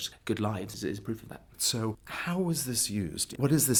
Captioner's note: voiceover